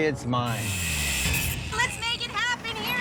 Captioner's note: buzzing